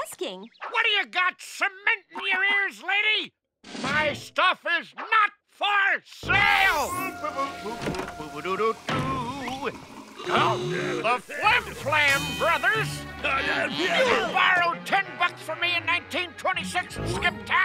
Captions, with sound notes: What do you got, cement in your ears, lady? My stuff is not for sale! [humming] [gasping] The Flim Flam Brothers? You borrowed ten bucks from me in 1926 and skipped town!